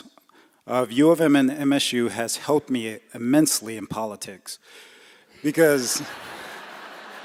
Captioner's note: laughter